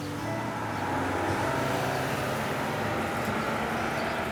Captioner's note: bus driving off